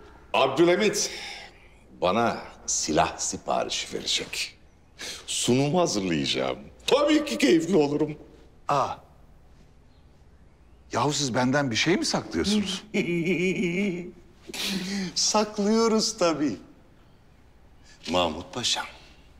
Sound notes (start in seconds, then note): 12.3 Zaharoff laughter